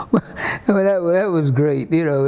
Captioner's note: laughs